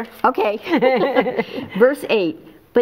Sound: laughing

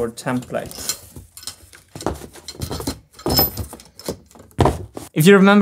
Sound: metal parts clanking

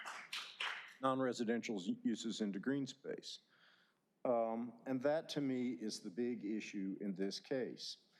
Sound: applause

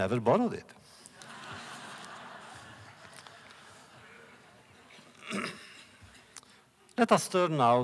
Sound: laughter

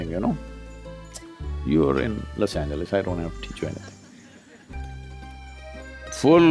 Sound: few laugh

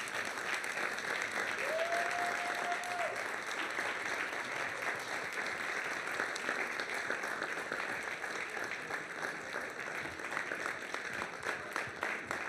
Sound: applause

